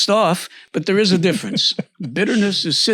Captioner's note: laughs